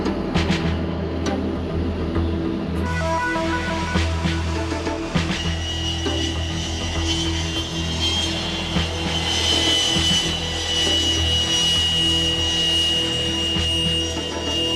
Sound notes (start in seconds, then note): 0.1 upbeat music continues; 9.1 plane noise